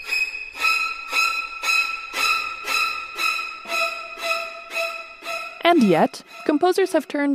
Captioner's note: shrieking, high, raspy sound